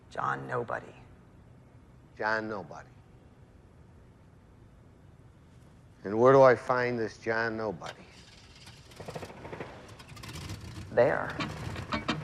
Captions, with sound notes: - John Nobody. - John Nobody? And where do I find this John Nobody? (engine starting) - There.